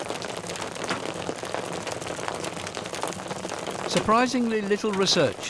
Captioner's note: none